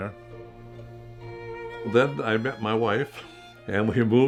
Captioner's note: chuckling